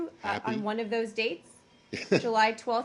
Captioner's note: laughter